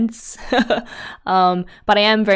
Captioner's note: laughs